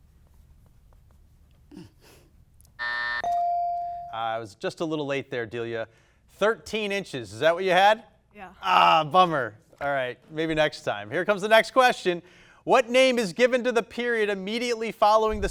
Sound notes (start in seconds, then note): 2.7 buzzer buzzing; 2.8 buzzer dinging